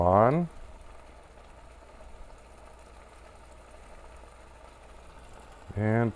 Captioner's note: silence